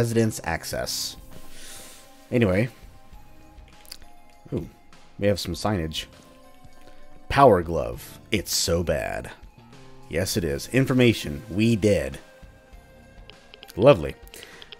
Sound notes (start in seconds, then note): none